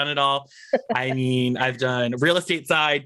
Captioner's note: laughs